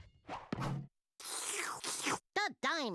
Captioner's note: slurping